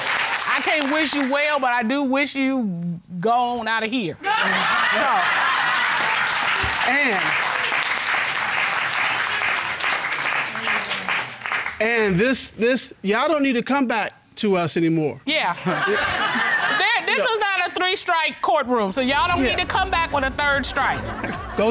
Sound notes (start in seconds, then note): 4.7 audience cheering; 15.7 chuckles